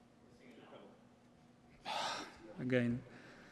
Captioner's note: sighs